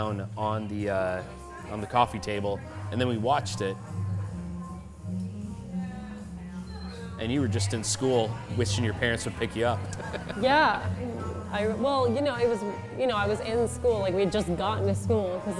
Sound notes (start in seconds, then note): 9.8 laughs